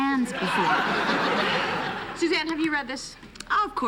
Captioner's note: laughter